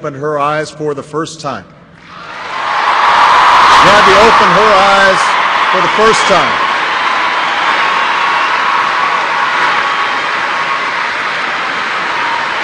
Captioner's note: applause